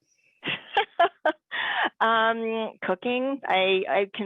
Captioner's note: laughs